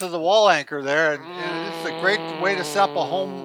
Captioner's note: groans